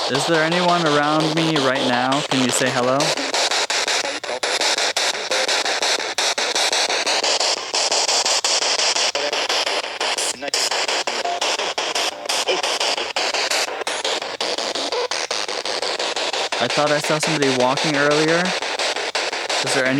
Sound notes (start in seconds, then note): 3.6 loud static electric noise; 4.6 static Electric Voice; 6.6 loud static electric noise